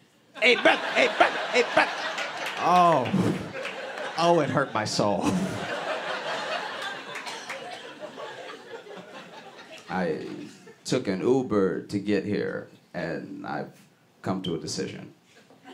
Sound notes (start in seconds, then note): 6.5 laughter